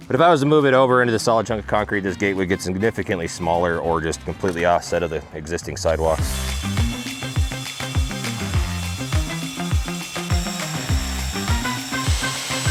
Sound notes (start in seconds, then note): 5.9 lively music; 6.2 drill whirring